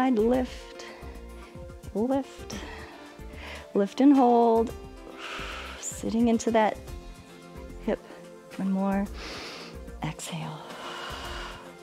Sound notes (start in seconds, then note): 5.0 exhales; 8.9 inhales; 9.1 exhales